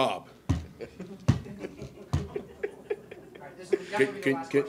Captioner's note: everyone laughing